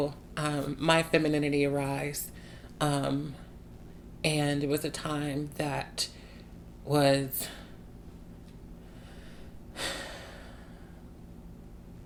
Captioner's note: sigh